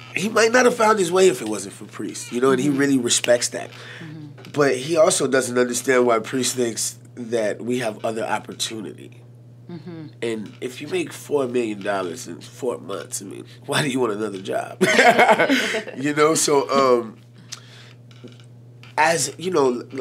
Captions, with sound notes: he might not of found his way if it wasn't for Priest, and he really respects that. But he also doesn't understand why Priest thinks that we have other opportunity. And if you make 4 million dollars in four months, why do you want another job? (laughs)